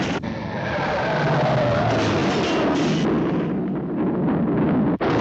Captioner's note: tires screeching